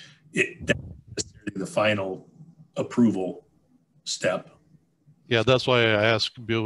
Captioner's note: mic cracking